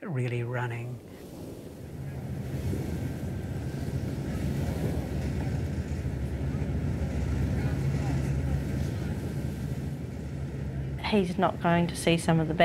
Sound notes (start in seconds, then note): 4.4 sound of the waves of the sea